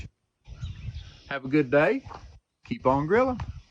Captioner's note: birds chirping